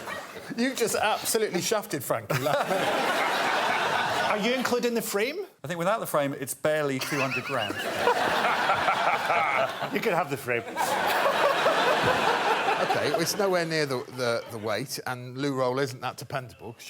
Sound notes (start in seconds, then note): 7.0 laughter; 10.6 laughter continues